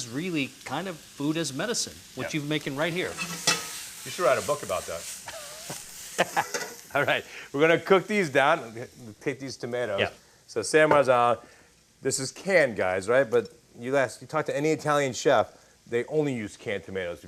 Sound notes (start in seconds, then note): 7.3 laughs; 8.7 laughing